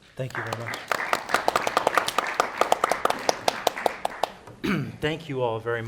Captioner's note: people clapping